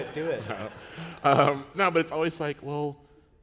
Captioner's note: laughter